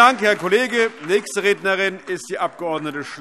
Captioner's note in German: Beifall AfD